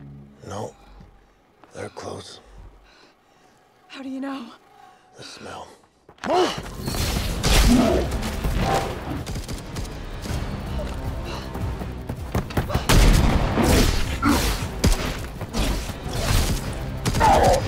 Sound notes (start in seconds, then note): 6.9 creature roaring; 7.0 guns firing; 12.6 creature roaring; 12.8 guns firing